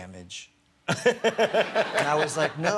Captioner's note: laughter